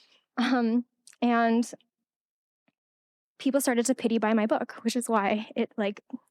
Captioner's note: laughing